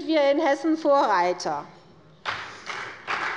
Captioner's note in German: Beifall bei der CDU und dem BÜNDNIS 90/DIE GRÜNEN